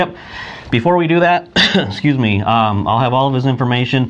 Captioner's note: coughs